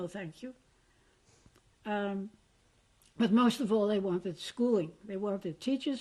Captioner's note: pauses for 3 seconds